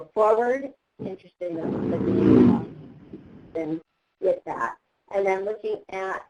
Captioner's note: revving car engine